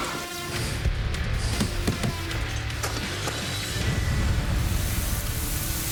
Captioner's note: thudding